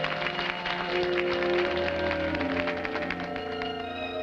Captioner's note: audience applauding; trumpet blows